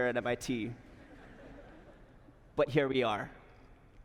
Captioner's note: laughter